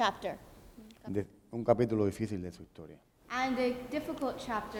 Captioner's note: speaking in Spanish